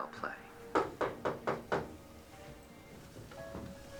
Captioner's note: knocking